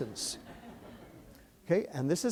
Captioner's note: laughter